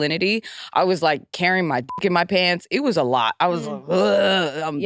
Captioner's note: beep